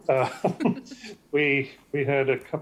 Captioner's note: laugh